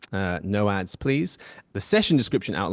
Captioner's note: French